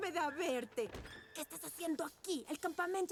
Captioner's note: angry whisper